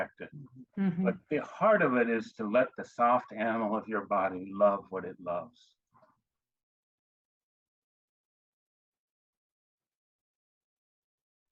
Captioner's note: pause